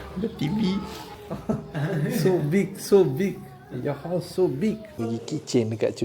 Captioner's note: laugh